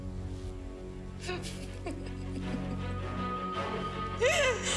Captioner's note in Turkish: Gülüyor